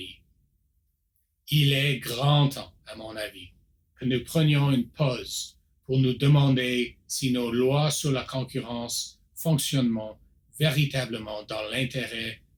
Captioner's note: repeats in French